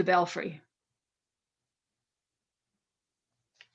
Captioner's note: silence